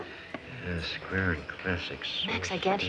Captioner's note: soft muttering